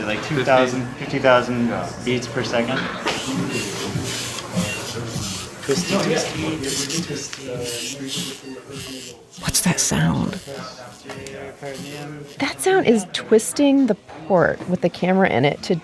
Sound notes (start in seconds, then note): 3.4 theater equipment clacks and drills; 10.8 medics faintly speaking